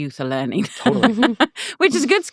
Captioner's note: laughing